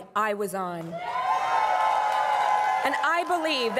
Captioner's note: crowd cheering and applauding